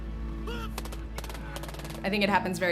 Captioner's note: gun pops